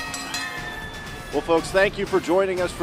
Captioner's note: bell ringing